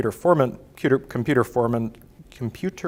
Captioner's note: stuttering